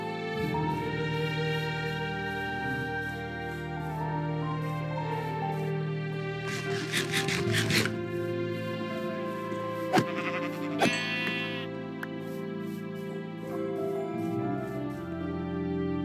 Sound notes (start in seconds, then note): 6.5 nom-nom